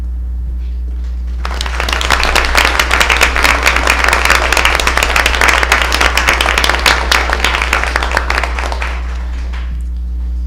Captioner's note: applause